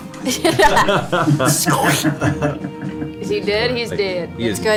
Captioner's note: all laugh